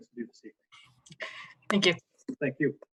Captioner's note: laughs